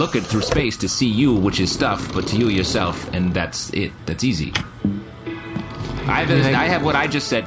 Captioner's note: boots up computer